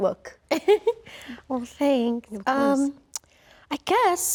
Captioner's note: laughs